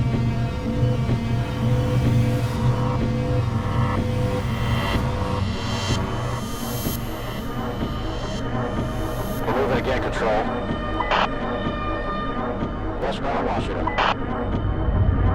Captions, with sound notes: - [Officer On Radio] They're moving again, control. Westbound on Washington.